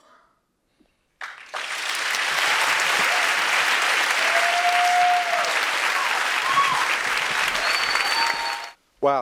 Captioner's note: applause